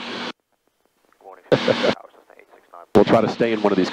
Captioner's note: chuckles